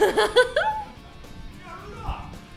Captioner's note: laughter